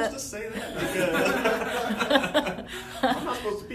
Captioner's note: laughter